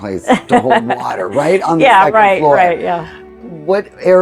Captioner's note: laughs